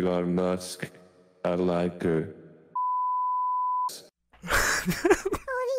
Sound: beeep

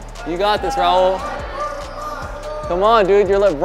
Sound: onlookers cheering

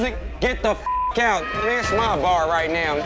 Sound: beep

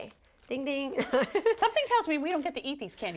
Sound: laughter

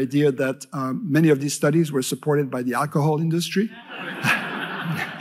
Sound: laughter

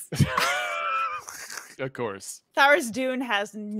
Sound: panelist chuckles

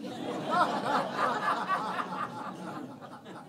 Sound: laughing

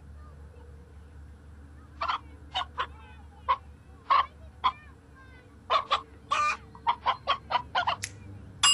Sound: chicken clucking

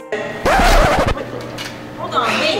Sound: record scratch....Music stops

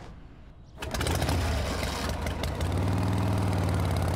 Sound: engine revs

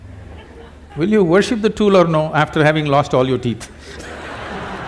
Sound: few laugh; laughter/Applause

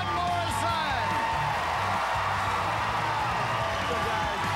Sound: cheers and applause

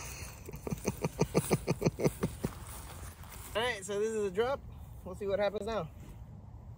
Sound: laughter

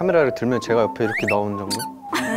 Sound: peep

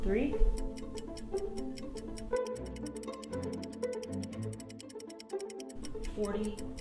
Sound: quiet, rapid music; timer clicks

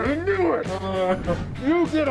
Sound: Quan Santa Laughs

